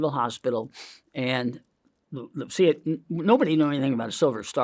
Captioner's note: sniffs